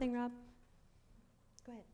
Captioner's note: mumbles